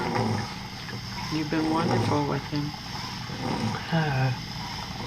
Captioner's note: sighs